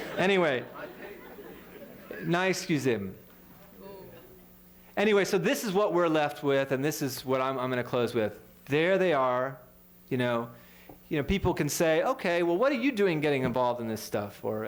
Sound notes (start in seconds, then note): 3.0 speaking french